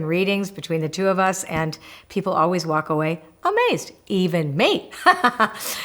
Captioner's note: laughs